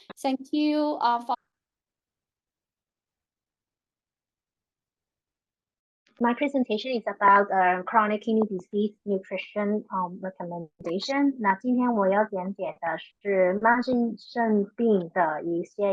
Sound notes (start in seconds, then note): 11.4 speaking chinese